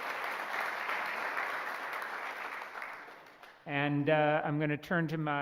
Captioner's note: applause